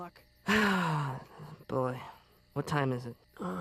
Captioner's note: sighs